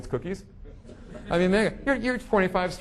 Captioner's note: audience laughing